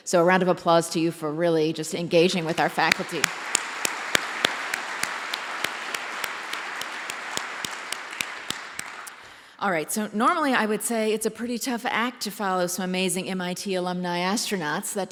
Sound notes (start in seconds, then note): 2.2 applause